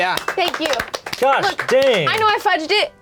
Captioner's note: applause